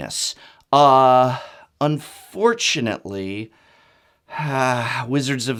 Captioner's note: exasperated sigh